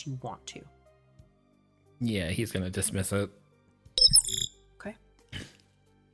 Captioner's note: omnitool chirps